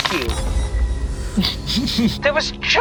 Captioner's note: laughs